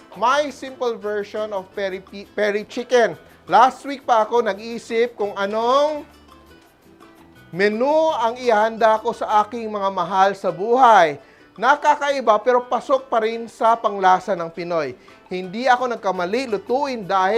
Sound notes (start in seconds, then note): none